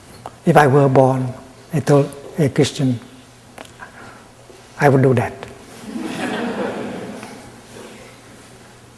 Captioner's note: laughter in the audience